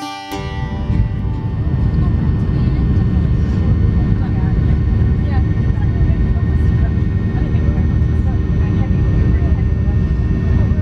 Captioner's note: sound of plane taking off